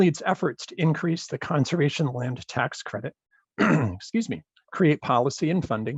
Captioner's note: clears throat